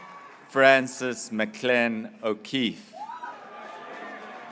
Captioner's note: graduates cheering